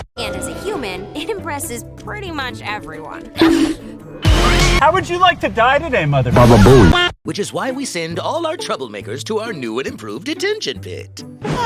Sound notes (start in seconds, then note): 4.2 bonk